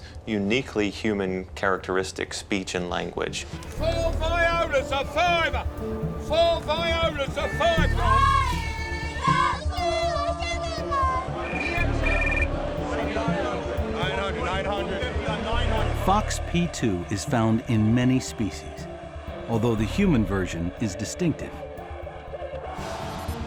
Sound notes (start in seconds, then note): 8.7 chanting; 11.7 phone rings